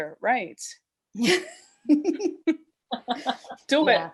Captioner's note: laughter